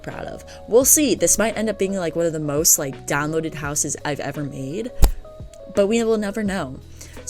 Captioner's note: accidently hits mic